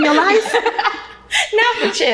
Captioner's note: ladies laughing